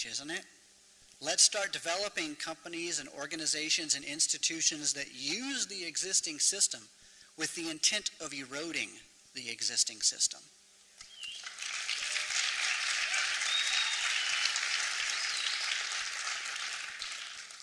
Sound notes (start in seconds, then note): 11.1 applause